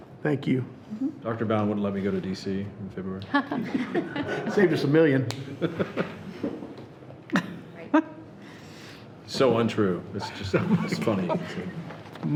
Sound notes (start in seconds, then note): 3.2 people laughing; 6.6 laughing